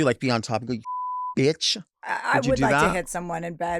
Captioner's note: beep